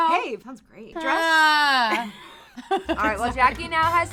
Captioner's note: whining